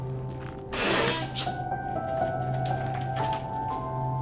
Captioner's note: door creaking